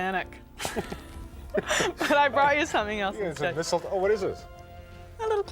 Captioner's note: both laugh